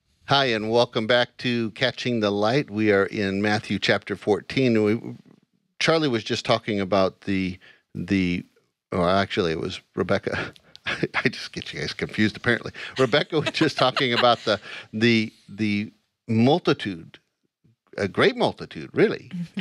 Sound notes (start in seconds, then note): 10.8 laughs; 12.9 laughing